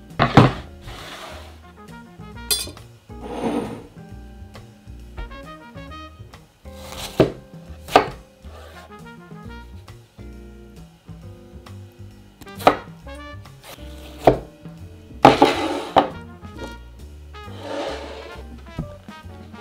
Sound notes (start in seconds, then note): 0.2 board sliding; 3.1 bowl sliding; 6.8 knife slicing